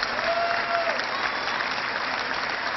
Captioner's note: cheering